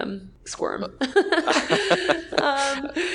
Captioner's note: laughing